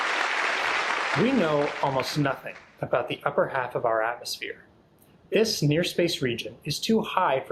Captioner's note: applause